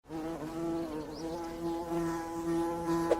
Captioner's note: bee buzzing